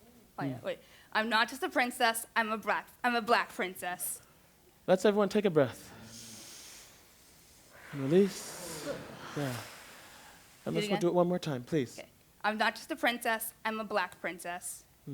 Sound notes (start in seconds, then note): 5.8 inhale; 8.6 exhale